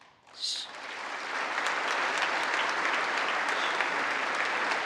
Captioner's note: congress applauding